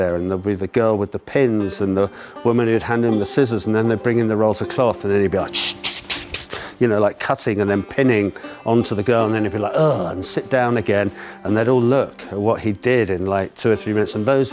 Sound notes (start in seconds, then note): 5.4 cutting sound